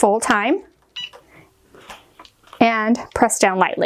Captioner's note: machine beeps